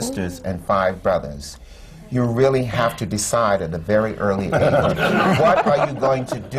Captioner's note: laughter